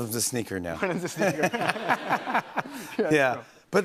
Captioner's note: laughter